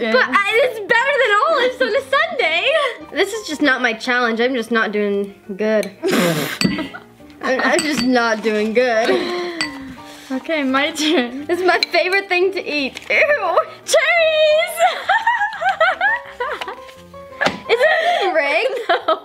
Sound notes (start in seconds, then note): 6.1 sputters; 14.6 laughs